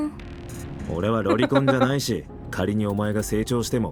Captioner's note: chuckles